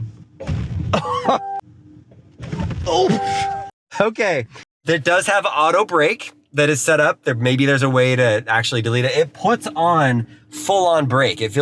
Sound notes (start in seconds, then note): 1.6 laughs; 2.4 car thuds and beeps